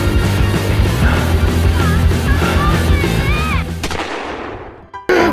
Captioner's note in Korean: 거친 숨소리ㅋㅋㅋㅋ